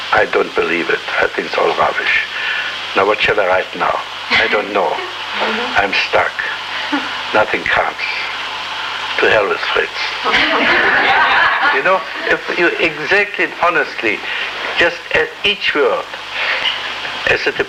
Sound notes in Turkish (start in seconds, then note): 10.2 Gülüşmeler